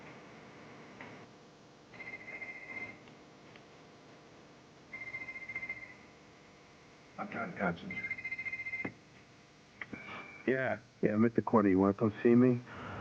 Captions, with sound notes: I'M TRYING TO CONCENTRATE. [TELEPHONE RINGS] YEAH! I'M AT THE CORNER. YOU WANT TO COME SEE ME?